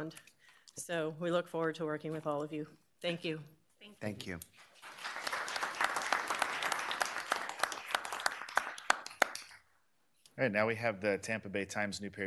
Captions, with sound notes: And we work in the Tri-County area and beyond. So, we look forward to working with all of you. Thank you. Thank you. Thank you. [applause]